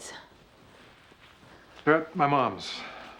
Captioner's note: sighs